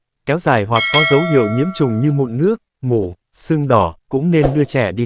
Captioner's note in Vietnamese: chuông